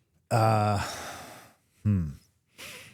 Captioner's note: sighs